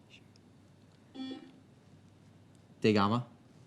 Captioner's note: beep